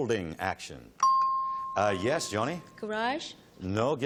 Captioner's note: ping